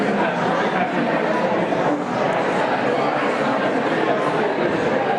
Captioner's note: audience conversing